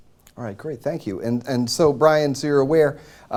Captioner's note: none